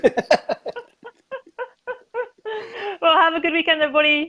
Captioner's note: both laugh